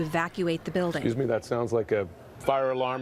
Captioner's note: alarm blaring